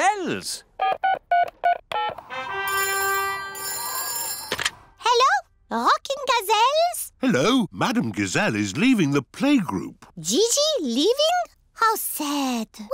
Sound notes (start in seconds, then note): 0.1 dialing; 2.6 phone rings